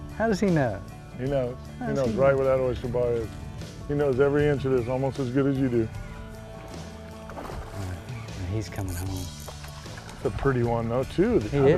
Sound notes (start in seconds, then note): 6.2 splashing